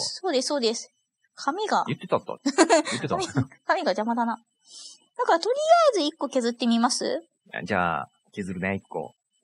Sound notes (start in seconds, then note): 1.8 laughs